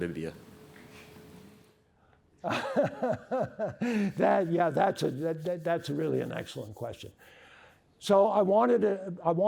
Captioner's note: laughter